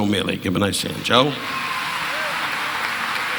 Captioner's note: audience laughing